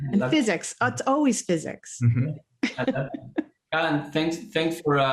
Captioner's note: laughter